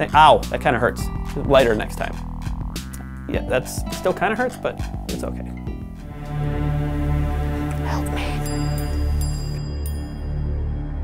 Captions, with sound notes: That kind of hurts. Lighter next time. Yeah. That's still kind of hurts, but it's OK. [OMINOUS MUSIC] (WHISPERS) Help me.